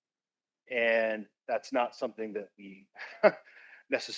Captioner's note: laughs